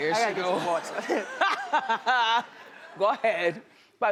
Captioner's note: laughing